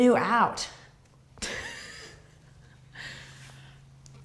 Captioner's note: laughs